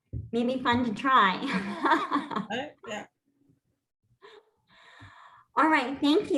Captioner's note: laughter